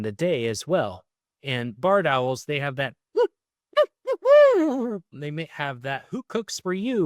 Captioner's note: mimics barred owl